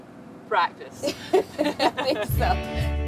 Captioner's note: laughing